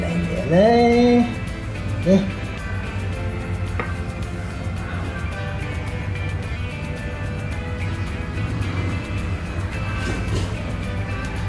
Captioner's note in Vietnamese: cười